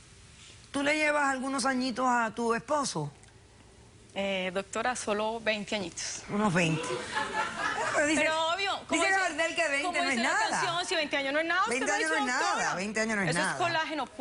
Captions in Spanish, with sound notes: PATY, ¿TU LE LLEVAS ALGUNOS AÑITOS A TU ESPOSO? - EH... DOCTORA, SOLO 20 AÑITOS. - UNOS 20. [Risas] NO, PERO DICE... DICE GARDEL QUE 20 NO ES NADA. - SI 20 AÑOS NO ES NADA. - 20 AÑOS NO ES NADA.